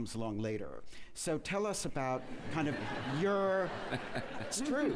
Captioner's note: laughter